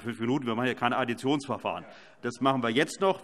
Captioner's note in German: none